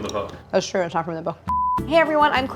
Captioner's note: beep